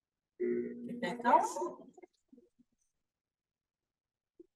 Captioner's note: machine whirring